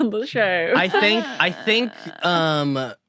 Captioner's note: grumbles